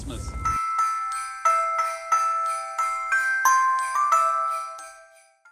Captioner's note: sleigh Bell Jingle